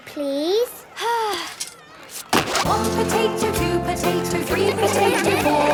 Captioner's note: Belinda sighing; laughter